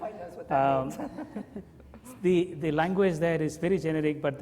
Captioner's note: laughs